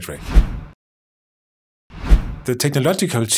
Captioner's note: swooshing